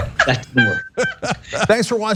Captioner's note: laugh